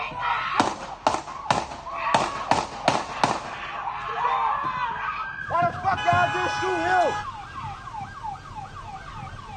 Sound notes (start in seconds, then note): 0.6 several gunshots; 3.4 screaming; 7.4 siren